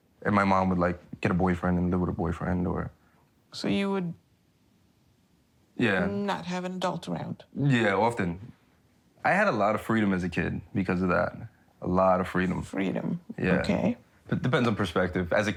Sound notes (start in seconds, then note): none